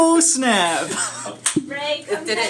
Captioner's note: laughs